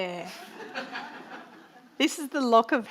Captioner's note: audience laughing